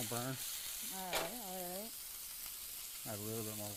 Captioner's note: sizzles loudly